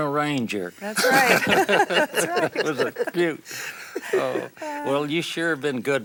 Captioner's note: laughs